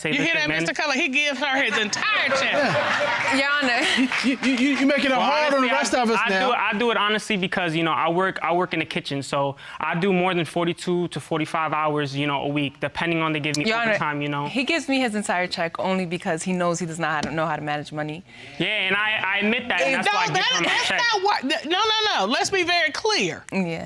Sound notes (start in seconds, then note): 2.9 audience laughing; 4.4 stutters